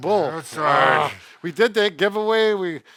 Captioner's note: growls